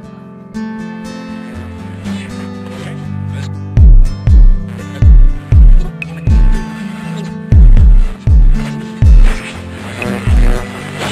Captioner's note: radio channel searching